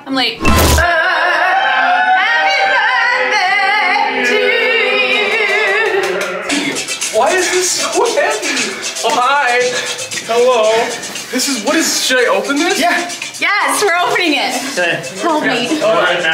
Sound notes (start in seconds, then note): 0.0 stage manager talking over intercom; 0.4 exciting instrumental music; 2.0 people singing; 5.0 people clapping